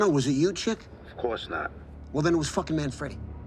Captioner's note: on phone